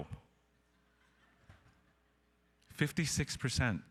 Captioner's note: audience laughing